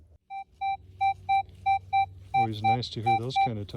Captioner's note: beeping